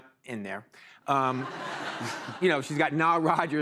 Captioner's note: laughter